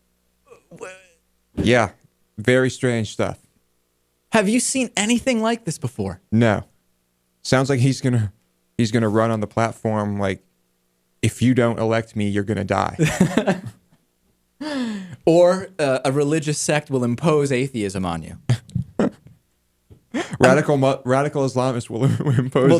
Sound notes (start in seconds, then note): 14.2 laughs; 22.2 laughs